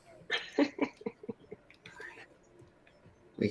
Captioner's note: laughter